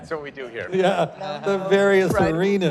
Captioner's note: laughter